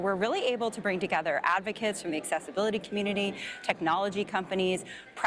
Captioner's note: none